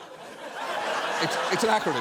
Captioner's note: audience laughs